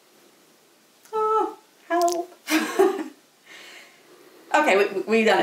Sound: chuckles

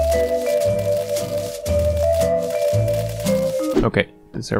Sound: furious thwacking

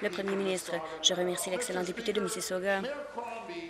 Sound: applause

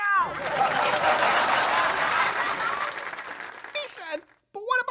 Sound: laughter/applause

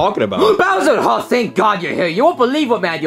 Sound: gasps

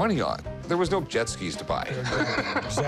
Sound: laughs

